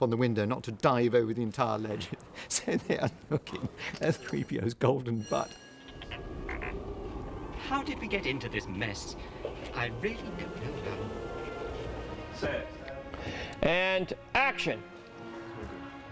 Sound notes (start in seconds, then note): 1.8 laughing; 5.8 chirping